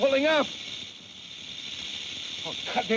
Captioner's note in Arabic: خشخشة الثعبان